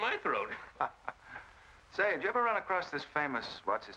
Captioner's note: chuckles